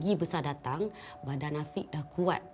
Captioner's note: in Bahasa Melayu